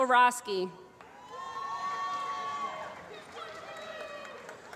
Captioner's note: applause